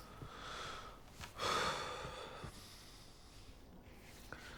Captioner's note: exhaling sharply